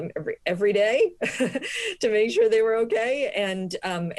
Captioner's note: laughter